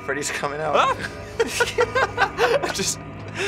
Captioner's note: both laugh